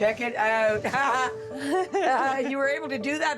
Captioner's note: laughing